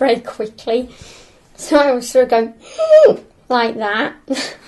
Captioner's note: gasp